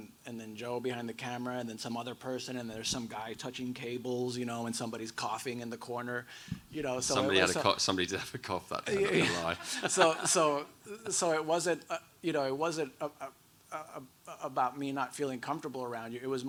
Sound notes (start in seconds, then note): 8.9 audience laughs